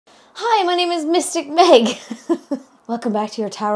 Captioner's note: chuckling